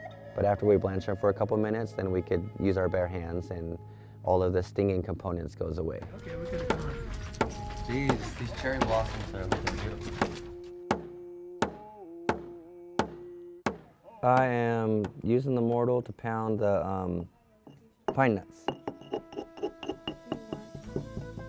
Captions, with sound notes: But after we blanch them for a couple of minutes, then we could use our bare hands and all of the stinging components goes away. (Background chatter), Gees, these these cherry blossoms are looking beautiful. I am using the mortar to pound the pine nuts.